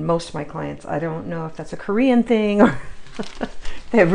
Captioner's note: laughs